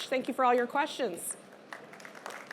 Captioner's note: applause